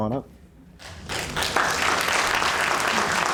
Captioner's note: applause